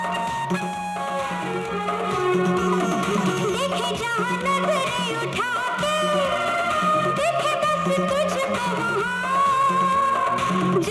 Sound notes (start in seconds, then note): none